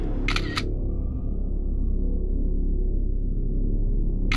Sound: camera snapping

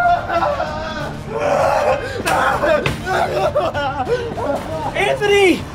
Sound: continues to scream frantically; screams

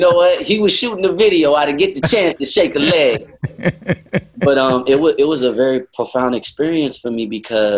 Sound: laughter; Sadhguru laughs

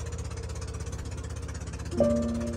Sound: motorboat engine reviving

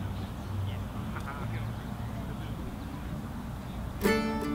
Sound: indistinct chatter

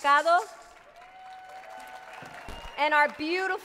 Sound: audience cheers

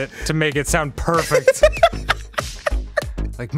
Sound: giggling

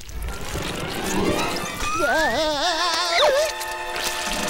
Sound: screaming

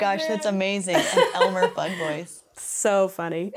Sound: laughs

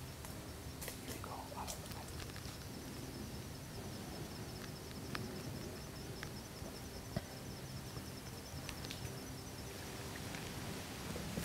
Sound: whispering

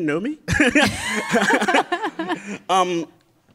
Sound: laughs

